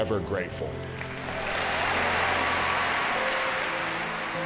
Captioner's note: audience applauds